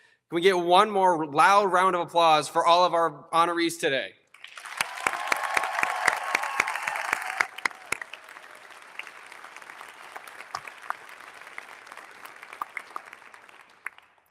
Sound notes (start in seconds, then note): 4.3 all applauding; 4.5 audience cheering